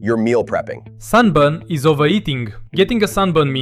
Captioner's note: excited